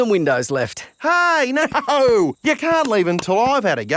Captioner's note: laughing